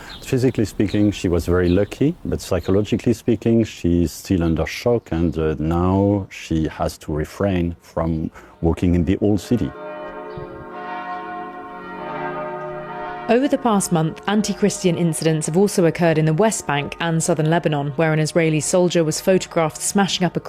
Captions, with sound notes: Physically speaking, she was very lucky, but psychologically speaking, she's still under shock, and now she has to refrain from walking in the Old City. [church bells ringing] Over the past month, anti-Christian incidents have also and Southern Lebanon, where an Israeli soldier